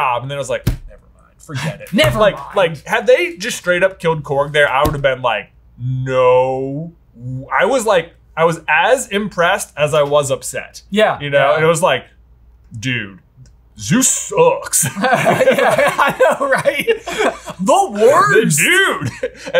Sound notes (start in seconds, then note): 14.8 both laugh